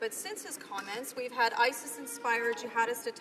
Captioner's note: some Applause